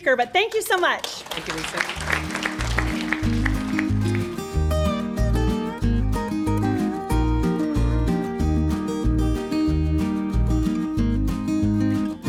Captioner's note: applause